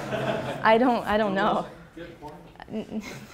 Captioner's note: laughs